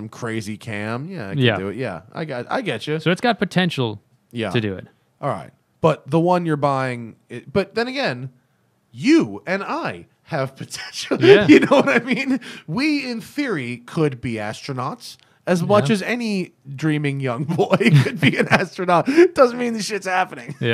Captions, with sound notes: crazy cam, yeah, it could do it. >>:Yeah. >>:Yeah, I get you. >>:So it's got potential to do it. >>:All right. But the one you're buying - but then again, you and I have potential (laughter). You know what I mean? >>:Yeah. >>:We in theory could be astronauts as much as any dreaming young boy (laughter) could be an astronaut. It doesn't mean the shit is happening.